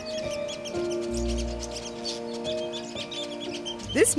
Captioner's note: chirping